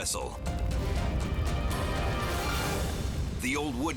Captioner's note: fire roaring